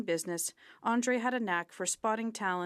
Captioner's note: speaking French